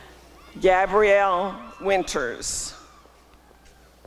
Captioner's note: applause and cheering